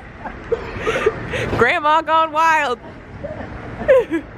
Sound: laughs

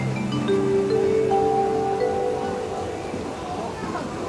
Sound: bells chiming

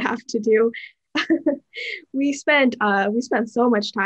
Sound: laughter

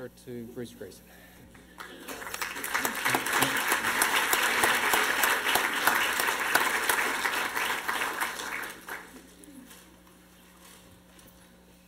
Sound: applause

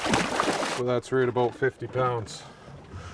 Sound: fish splashing

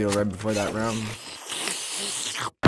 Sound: slurping

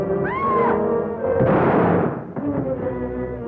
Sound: shriek; gunshot

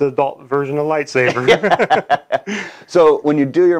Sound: chuckling

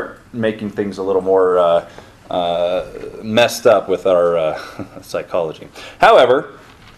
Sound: chuckles

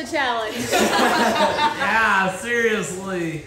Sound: all laughing

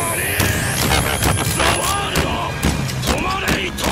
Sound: anime fight scene sounds

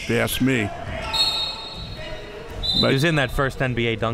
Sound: whistle

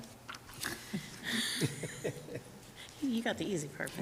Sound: group laughs

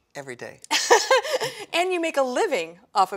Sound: laughs

